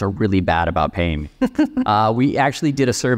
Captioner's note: laughing